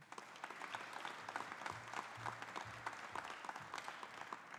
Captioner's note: audience applauding